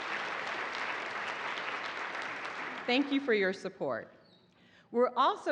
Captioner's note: applause